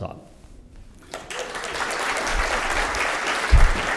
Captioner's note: applause